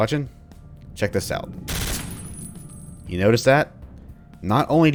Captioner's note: gunfire